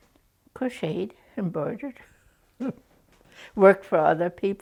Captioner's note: chuckles